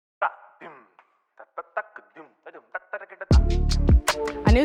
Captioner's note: man beatboxing; upbeat music